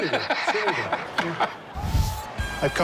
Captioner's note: laughs